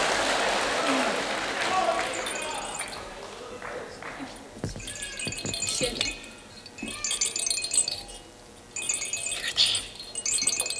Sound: clapping several times; shakes rattle around each ear; whispering

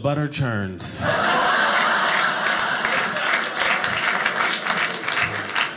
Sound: audience applauding

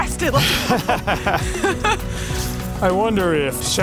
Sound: laughter

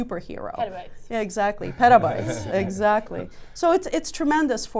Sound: all laugh

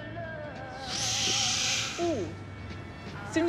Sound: Rufus sighs

